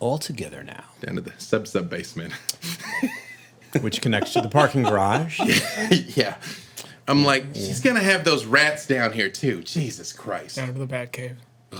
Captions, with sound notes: Altogether now. Into the sub-sub-basement. (laughing) Which connects to the parking garage? I'm like, she's gonna have those rats down here, too. Jesus Christ. Down to the Batcave.